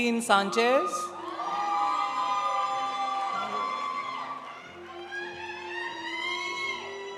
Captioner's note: audience cheering; audience applauding